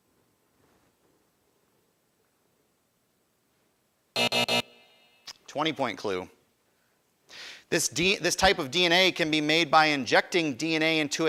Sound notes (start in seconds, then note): 4.1 alarm buzzes